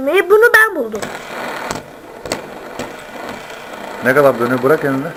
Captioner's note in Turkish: Dönme Sesi